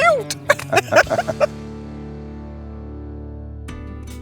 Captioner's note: both laughing